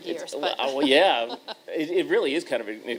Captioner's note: chuckle